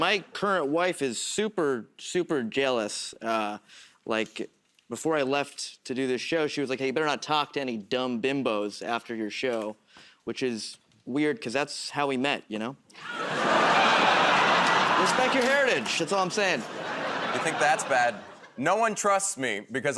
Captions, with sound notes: My current wife is super, super jealous. Like, before I left to do this show, she was like, "Hey, you better not talk to any dumb bimbos after your show." Which is weird 'cause that's how we met, you know? [ Laughter ] Respect your heritage. That's all I'm saying. -You think that's bad? No one trusts me